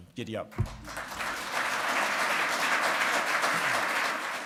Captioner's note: audience applauding